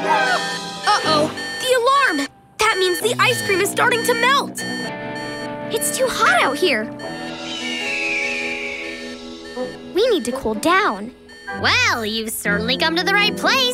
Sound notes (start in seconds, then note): 4.1 beeping; 7.5 squawking